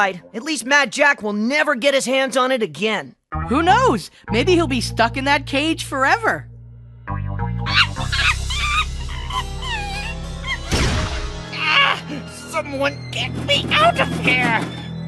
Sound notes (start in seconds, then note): 7.6 monkey noises